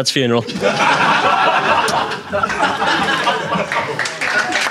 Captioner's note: audience laughing; audience applauding